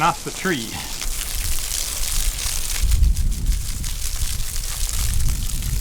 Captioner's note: water splashing, spraying